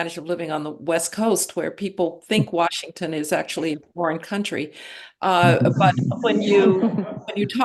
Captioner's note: laughter